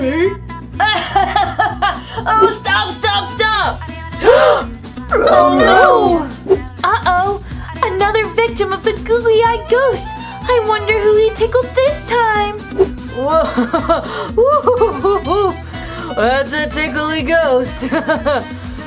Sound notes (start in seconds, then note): 0.8 Jimmy laughing; 4.2 all gasp; 13.3 Fred laughing